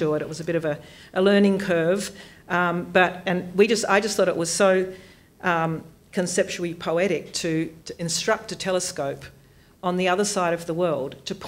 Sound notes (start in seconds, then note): none